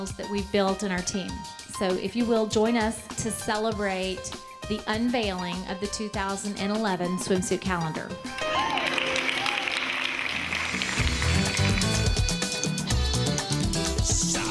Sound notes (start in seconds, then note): 8.3 group claps; 11.1 lively dance music